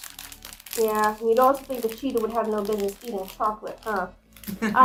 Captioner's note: laughs